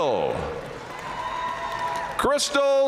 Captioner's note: audience cheering and applauding